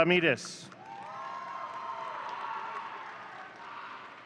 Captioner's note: audience cheering